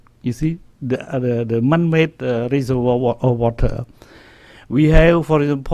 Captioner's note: stutters